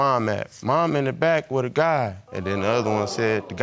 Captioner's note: audience exclaiming